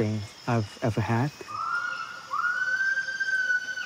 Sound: gibbons call

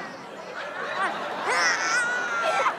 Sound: grunting; snarling

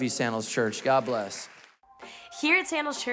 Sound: congregation applauding

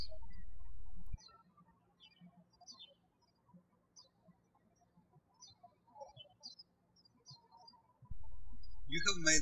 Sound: birds chirping

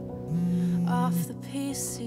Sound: phone vibrates

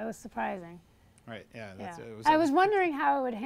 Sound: voiceover

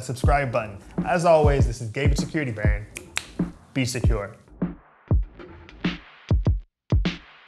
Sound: snaps fingers

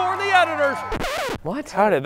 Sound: radio scratching

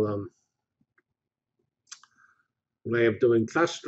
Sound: pause

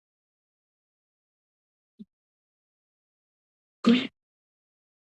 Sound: silence

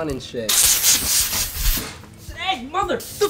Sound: silly string spraying

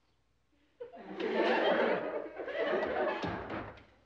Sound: class laughing

